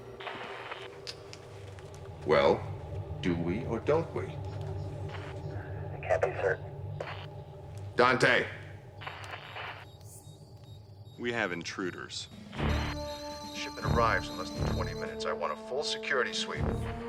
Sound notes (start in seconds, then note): 12.3 beeping